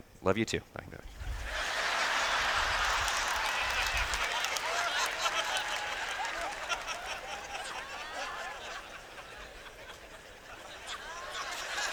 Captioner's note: laughter